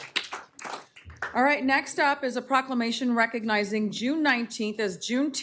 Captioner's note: applause